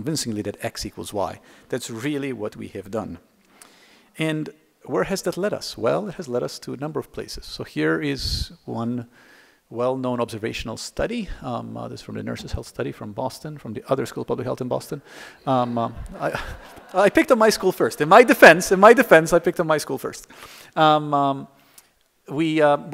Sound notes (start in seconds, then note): 15.6 laughter